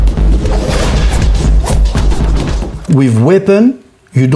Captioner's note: weapon whooshing